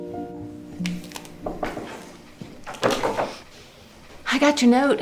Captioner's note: hand knocking